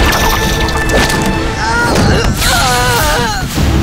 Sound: screaming

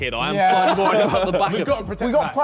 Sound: all laughing

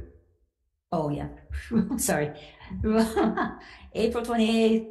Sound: chuckles; laughs

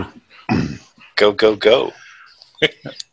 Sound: chuckles

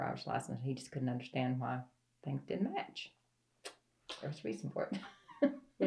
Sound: laughs

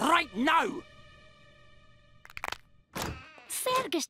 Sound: crack

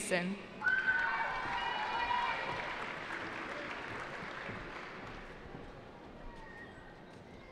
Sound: cheering

